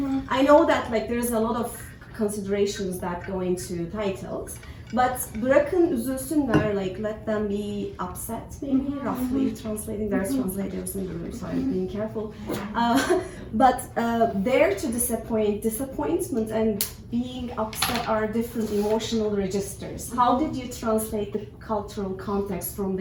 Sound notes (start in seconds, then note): 12.8 chuckles